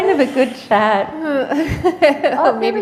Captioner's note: laughter